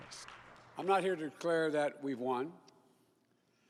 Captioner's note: cheers and Applause